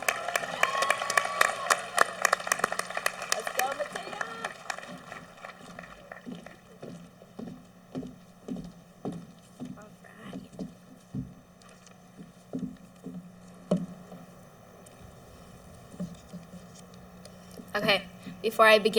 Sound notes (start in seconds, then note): 3.9 clapping